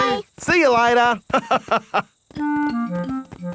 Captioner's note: laughs